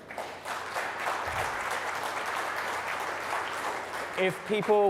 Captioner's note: applause